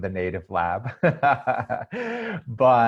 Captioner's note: laughs